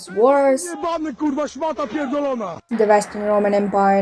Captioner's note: angry polish noises